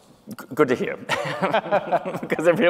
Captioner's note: both laughing